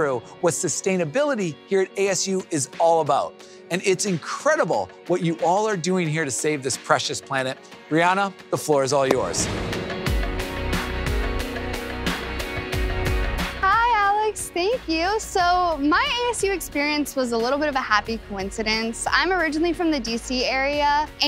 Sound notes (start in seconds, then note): 9.1 transition whooshes; 9.3 warm music